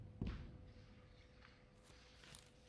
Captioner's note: none